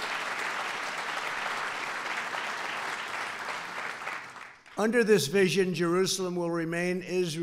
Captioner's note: applause